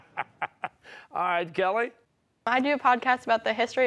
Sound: chuckling

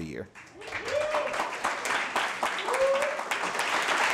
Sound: crowd cheering

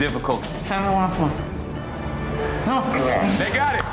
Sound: digital beeping

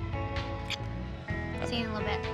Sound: smooch

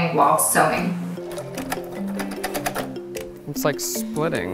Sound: sewing machine clunking

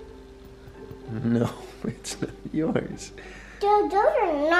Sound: chuckling

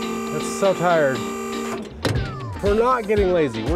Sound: loud screeching from hydraulics; hydraulics shutting off

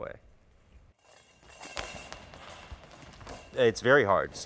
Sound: jingling

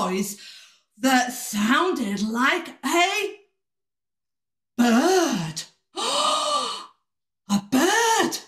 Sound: gasp

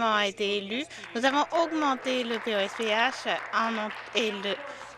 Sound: some Applause

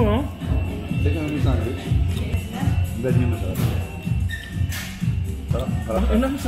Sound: indistinct chatter

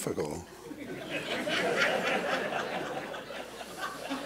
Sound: laughter

